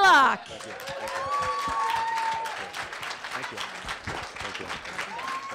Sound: audience clapping and cheering

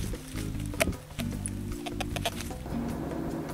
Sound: chewing

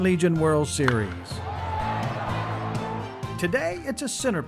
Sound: baseball bat hitting ball, crowd cheers

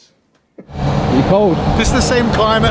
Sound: vehicle engine and wind

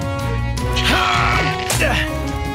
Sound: grunting

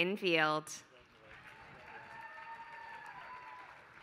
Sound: applause

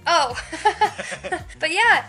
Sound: laughing

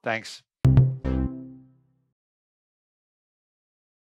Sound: logo chiming

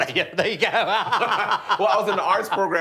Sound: laughing

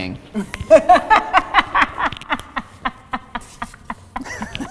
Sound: laughing

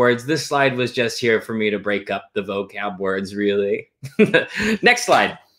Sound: chuckles

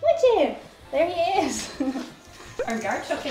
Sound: softly laughs

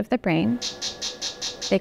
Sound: electric buzzing

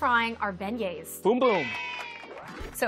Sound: children cheering

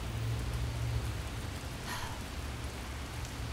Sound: sighs

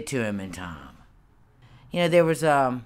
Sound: silence

